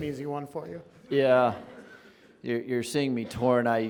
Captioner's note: audience laughing